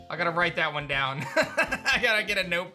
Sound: laughs

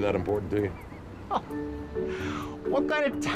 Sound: laughing

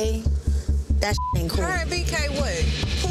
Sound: beep

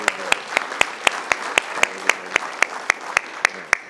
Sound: applause

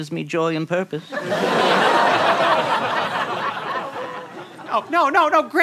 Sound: audience laughter

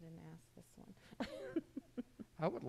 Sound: laughing

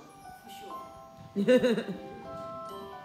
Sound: laughing

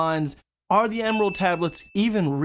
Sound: bell Dings

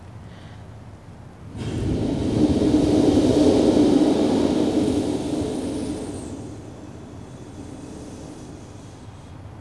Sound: shri mataji blows into the microphone

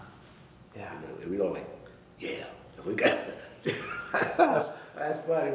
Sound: laughing

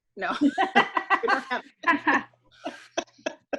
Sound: laughs

